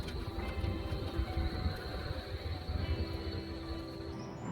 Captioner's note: city noises